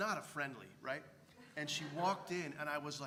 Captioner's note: laugh